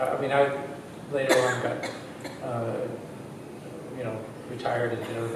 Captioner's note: coughing drowns out speaker